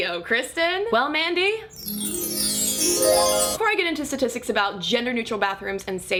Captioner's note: magic bells chime